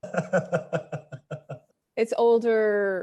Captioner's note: man laughing